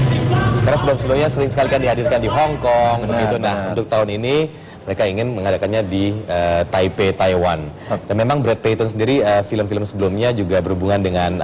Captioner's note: non-english speech